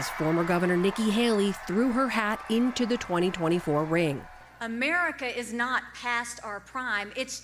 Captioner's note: applause